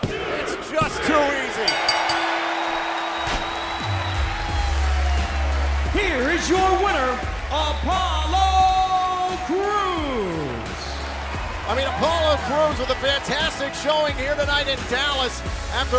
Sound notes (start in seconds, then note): 1.6 bell; 3.2 cheers & applause